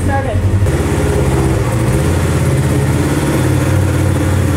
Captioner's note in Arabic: دورات المحرك